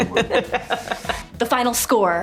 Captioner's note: Margot laughing